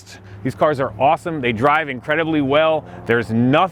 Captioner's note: helicopter whirring